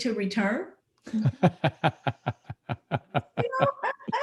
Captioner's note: laughs